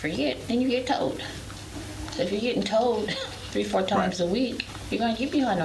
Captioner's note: laughs